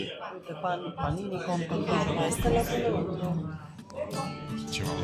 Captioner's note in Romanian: vorbind italiană